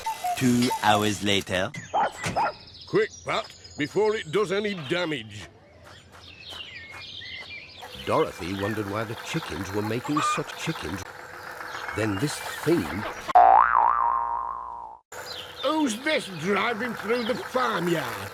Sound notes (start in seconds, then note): 13.3 boing!